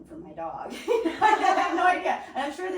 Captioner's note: laughing